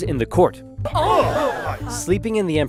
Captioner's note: more gasp sounds